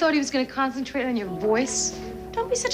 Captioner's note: none